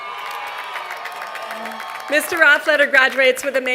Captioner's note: applause